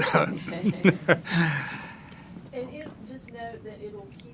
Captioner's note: laughing